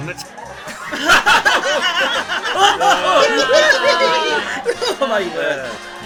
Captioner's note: everybody laughs